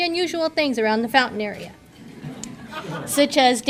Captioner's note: audience laughter